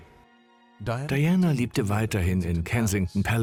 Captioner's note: voiceover